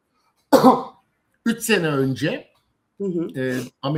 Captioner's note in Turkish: boğazını temizler